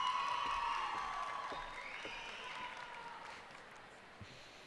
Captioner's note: cheers and applause